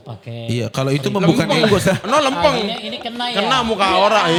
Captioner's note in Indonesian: tertawa